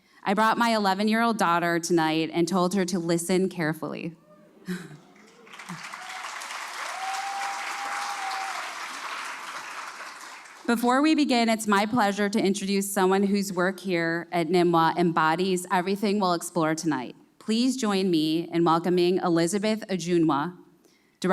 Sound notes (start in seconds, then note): 4.9 applause